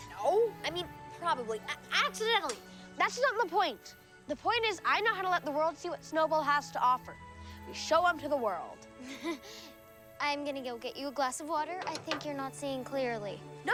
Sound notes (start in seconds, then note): 9.0 chuckling